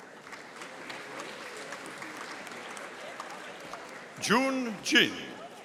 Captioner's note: audience applauding